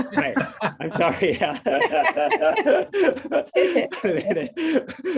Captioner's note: laughing